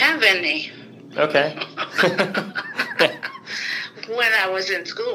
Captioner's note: both chuckle